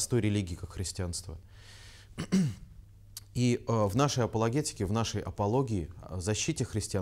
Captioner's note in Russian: Прочищает горло